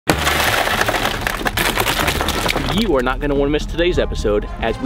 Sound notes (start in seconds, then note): 0.0 glass smashing